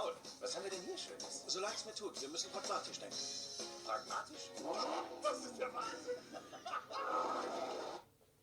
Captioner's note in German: fetzige musik; autogeräusche; lach & mehr autogeräusche